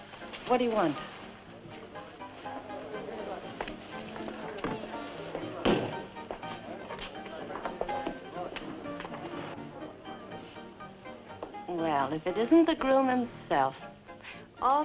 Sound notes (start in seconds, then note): 2.4 bar patrons chatting